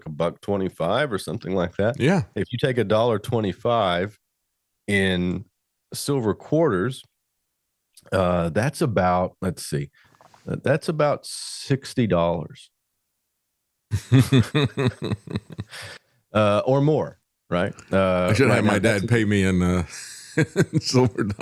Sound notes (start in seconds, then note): 14.0 laughs